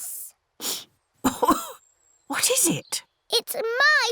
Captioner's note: sniffs and coughs